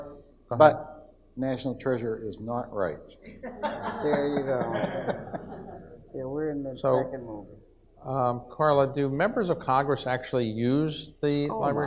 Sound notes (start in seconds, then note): 3.2 audience laughs